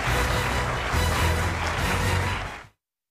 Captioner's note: applause